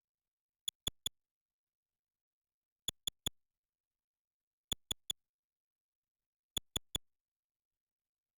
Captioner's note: soft, high-pitched clicks